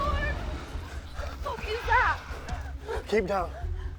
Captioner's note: dragon growls